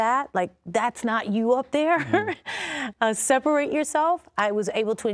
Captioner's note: laughing